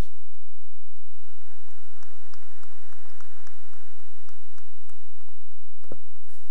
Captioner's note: cheering and applause